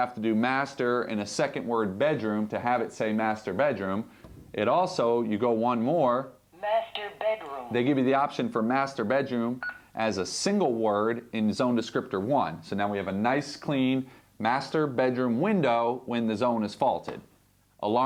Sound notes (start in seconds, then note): 6.3 computer voice